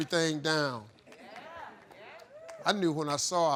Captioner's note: crowd